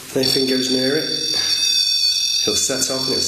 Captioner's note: REM-POD beeping